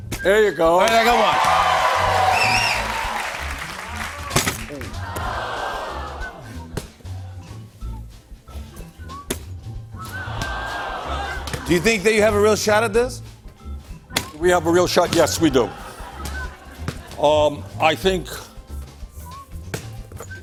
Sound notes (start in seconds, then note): 0.9 cheers and applause; 4.6 audience "aw"s; 10.1 audience "aw"s